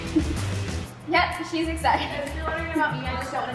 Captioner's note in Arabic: تضحك